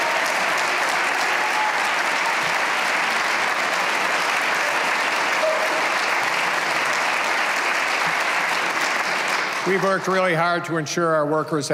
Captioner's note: cheers and applause